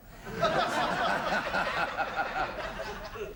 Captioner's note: laughter